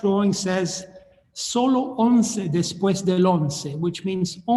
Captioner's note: speaking in foreign language